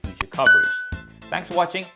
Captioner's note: bell dinging